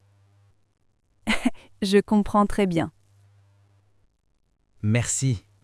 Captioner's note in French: rire